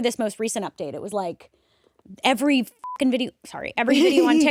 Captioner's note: beep